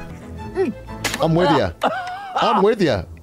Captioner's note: spits, coughs